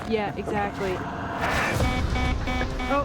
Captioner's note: electronic beeping